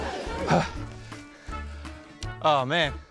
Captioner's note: gasps